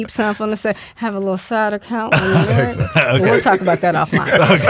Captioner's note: all laughing